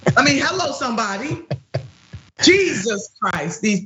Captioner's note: laugh